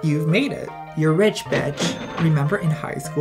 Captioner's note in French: caisse enregistreuse